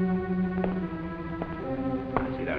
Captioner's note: footsteps